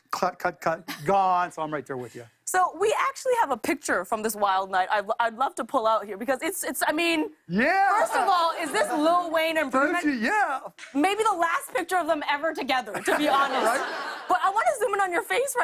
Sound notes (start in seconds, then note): 8.0 laughter